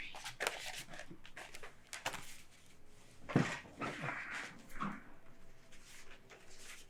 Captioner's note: chair thudding; material rustling